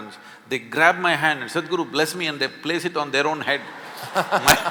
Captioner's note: laughter